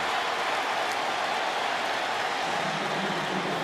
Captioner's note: cheering